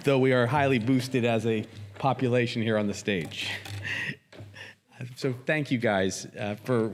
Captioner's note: chuckles